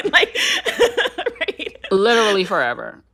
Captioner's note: laughter